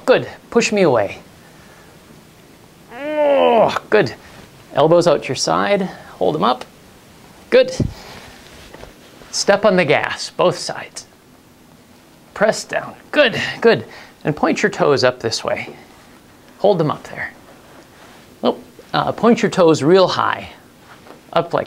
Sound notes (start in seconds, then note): 2.9 grunts